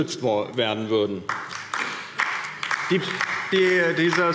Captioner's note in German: Beifall DIE LINKE